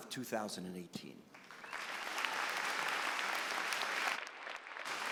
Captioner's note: applause